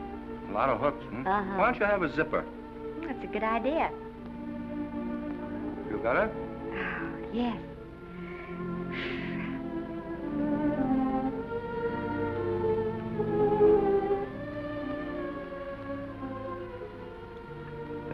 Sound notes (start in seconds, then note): 8.0 exhales; 9.8 soft romantic music